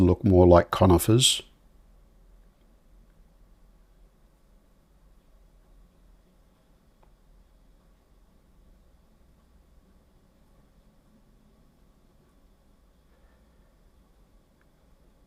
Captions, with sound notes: look more like conifers. [silence]